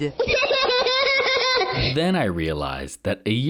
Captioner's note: laughs